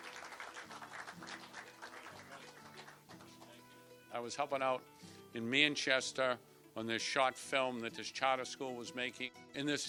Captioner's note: applause